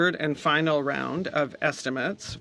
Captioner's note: speaking French